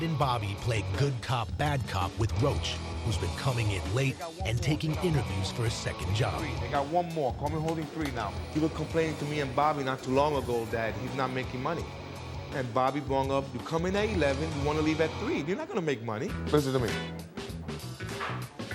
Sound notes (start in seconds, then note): none